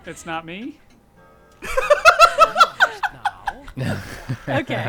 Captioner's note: laughing